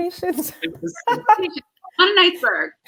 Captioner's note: laughter